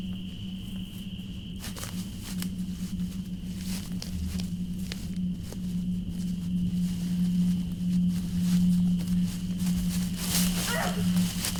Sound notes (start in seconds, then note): 1.2 sound of footsteps; 10.5 muffled scream